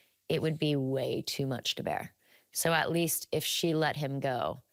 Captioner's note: none